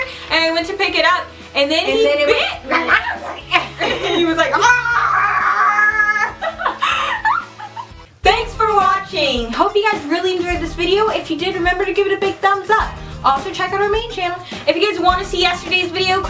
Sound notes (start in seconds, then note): 2.9 imitating a dog; 6.6 laughing